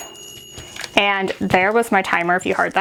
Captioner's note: oven dinging